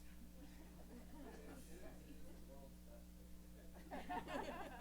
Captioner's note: background chatter